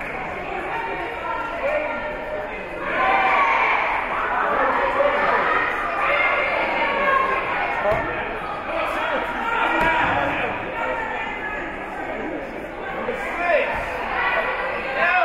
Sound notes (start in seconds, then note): 2.9 team chanting; 9.2 spectators and teams chattering